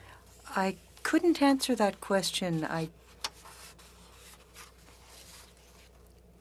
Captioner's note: speaking French